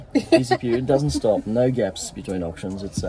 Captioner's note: laughing